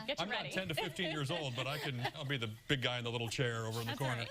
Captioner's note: laughter